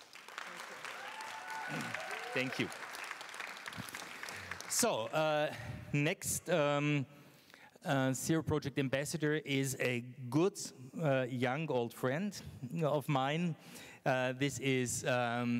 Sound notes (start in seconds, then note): 0.0 applause